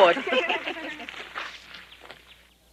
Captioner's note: laugh